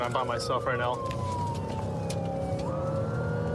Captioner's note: siren blaring